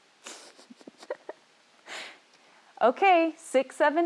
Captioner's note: laughs